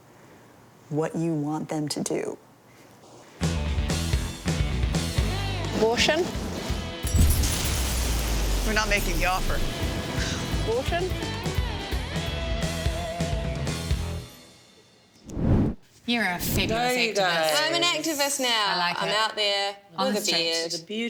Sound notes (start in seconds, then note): 3.4 upbeat rock music; 7.1 metal clanging; 7.1 metal thudding